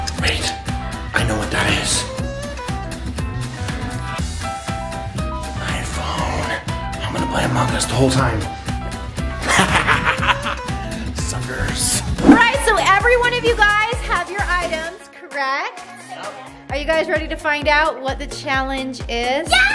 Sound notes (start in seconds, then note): 3.0 playful music; 9.4 laughs